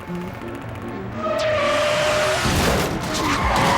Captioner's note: tires screeching